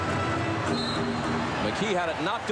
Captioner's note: whistle blows